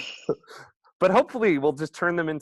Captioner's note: laughs